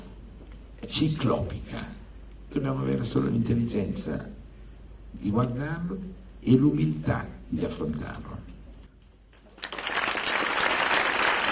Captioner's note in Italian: Applauso